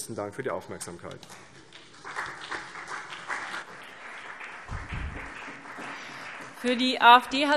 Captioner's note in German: Beifall CDU, vereinzelt BÜNDNIS 90/DIE GRÜNEN und SPD